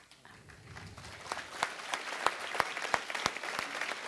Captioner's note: applause